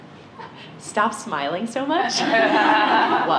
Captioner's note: laughter